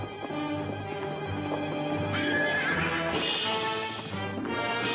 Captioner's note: horse whinnies